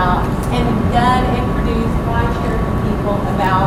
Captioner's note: mumbling